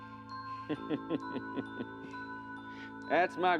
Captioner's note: laughs